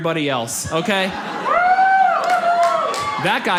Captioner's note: man cheers